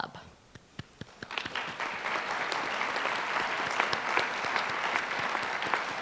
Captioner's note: applause